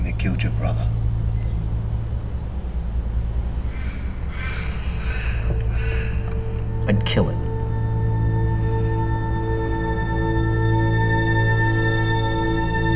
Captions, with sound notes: that killed your brother? (bird cawing) - I'd kill it. (dramatic music)